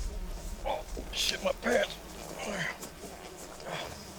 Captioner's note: grunts